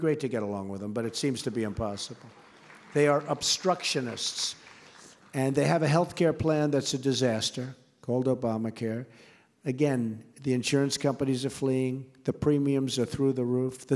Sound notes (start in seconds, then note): 1.1 applause